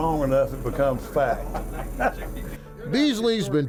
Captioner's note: laughs